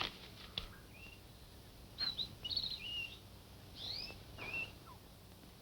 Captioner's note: birds chirping